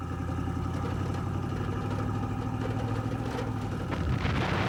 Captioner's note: engines rumbling; explosion booming